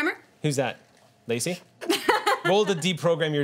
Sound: laughing

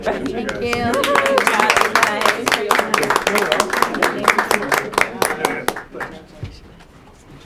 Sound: applause

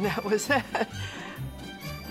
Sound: laughs

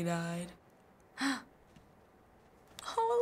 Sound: gasps

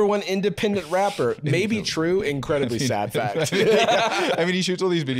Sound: both laughing

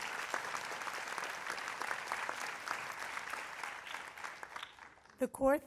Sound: applause

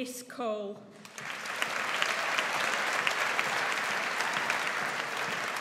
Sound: audience applauds

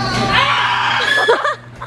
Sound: screams

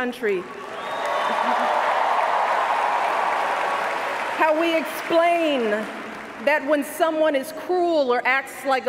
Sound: cheers, applause

